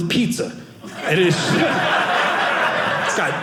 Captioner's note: audience laughing